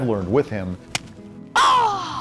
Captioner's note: ball thwacks